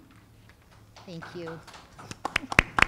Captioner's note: audience applauding